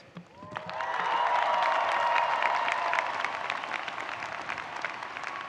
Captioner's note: audience cheering and applauding